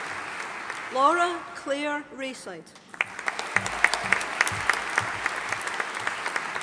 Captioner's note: audience applauding